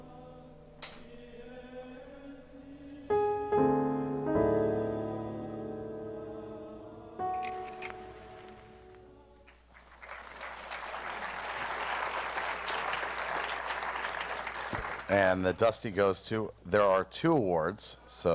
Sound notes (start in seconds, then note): 7.4 clicking; 9.4 applause